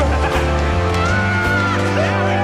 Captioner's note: laughing; screaming